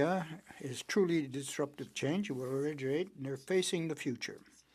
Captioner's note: speaking French